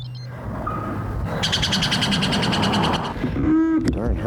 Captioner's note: bird chirp